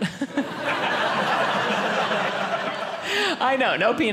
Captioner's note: audience laughing